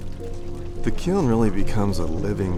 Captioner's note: fire Crackling